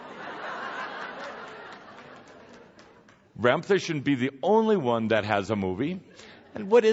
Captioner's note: laughter